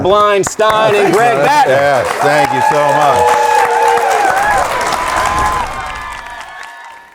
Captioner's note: audience applauding